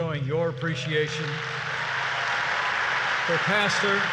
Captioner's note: applause